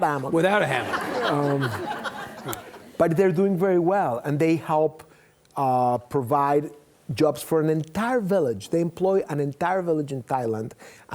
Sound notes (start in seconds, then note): 0.6 audience laughing